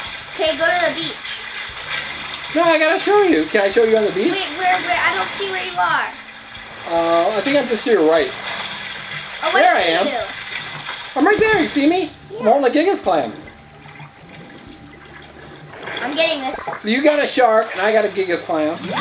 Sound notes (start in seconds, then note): 14.4 water splashing